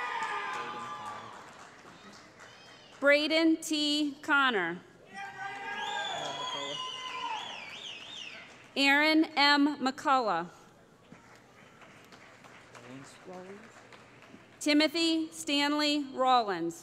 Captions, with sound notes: [ Cheering ] Braden T. Conner [ Cheering ] Aaron M. McCullough [ Applause ] Timothy Stanley Rowlands